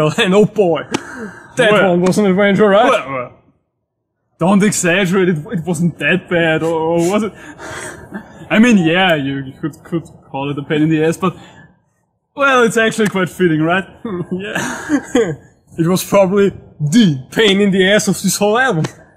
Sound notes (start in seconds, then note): 7.2 laughing